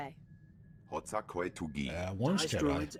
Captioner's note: speaking Japanese